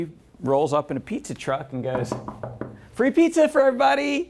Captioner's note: knocks on table